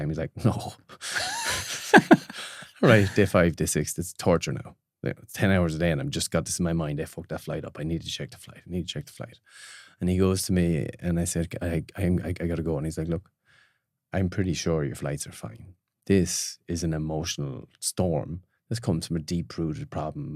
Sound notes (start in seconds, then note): 1.0 both laughing